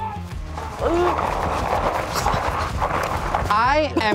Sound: paintballs firing

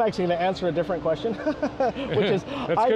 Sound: laughs

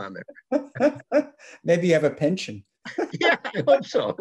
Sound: laughs

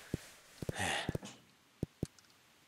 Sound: sigh

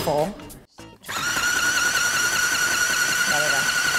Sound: whirring

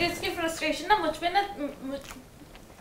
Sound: fumbles

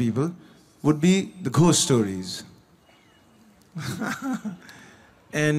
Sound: laughs

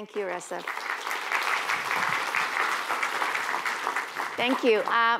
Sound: applause

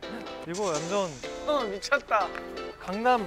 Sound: can't help but clap for it

